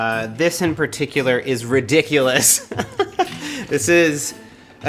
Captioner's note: laughs